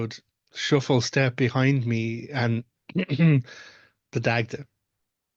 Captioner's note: cough Cough